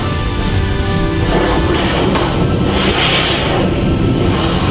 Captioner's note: water splashing